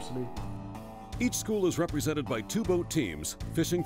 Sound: voiceover

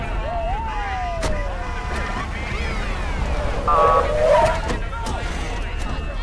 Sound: siren wailing, horns honking; urgent chatter

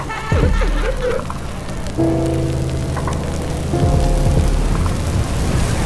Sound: laughter; fire crackling

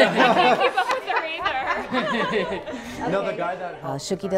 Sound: laughter

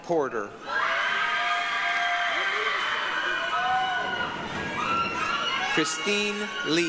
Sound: applause, cheering

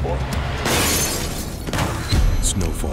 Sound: glass shattering

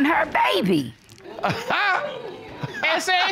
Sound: chuckles

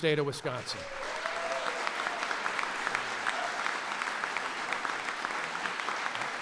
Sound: applause

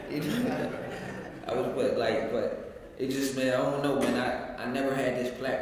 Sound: laugh

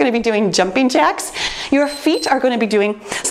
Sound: timer beeps

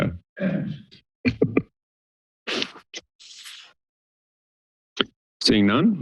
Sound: silence

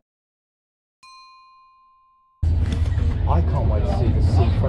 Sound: pinging

